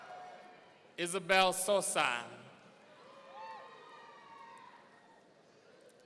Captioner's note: audience cheering; audience cheering